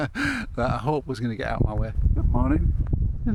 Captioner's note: laughs